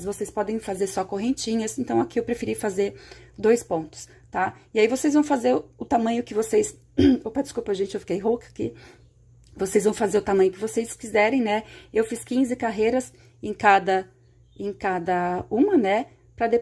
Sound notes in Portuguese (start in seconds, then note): 7.0 limpando a garganta